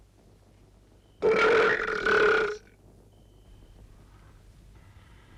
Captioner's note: Torente belches